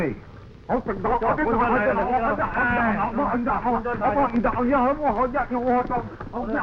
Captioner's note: men speaking in foreign language